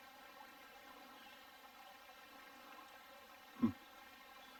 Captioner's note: burbling water